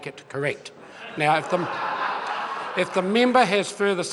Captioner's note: members laugh